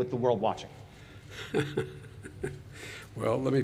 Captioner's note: laughs